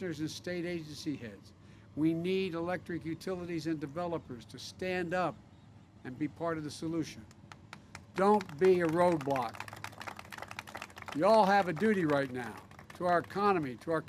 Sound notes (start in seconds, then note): 9.9 applause